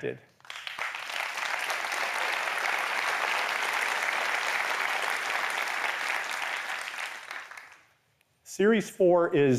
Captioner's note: applause